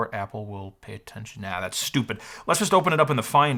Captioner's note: none